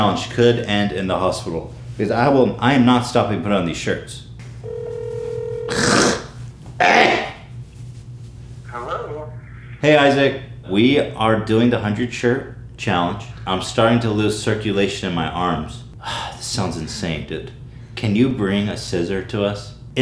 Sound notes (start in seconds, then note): 4.6 phone Ringing; 15.9 sigh